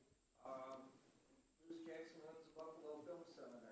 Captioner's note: faintly speaking